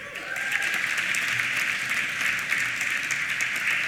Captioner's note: applause